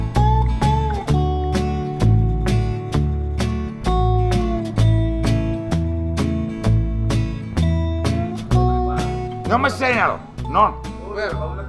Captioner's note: speaking Batak